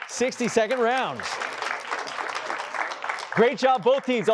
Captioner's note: applause